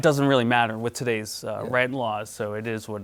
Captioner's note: chuckles